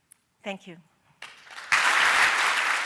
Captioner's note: applause